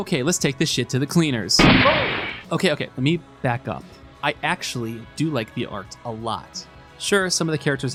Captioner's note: gunshot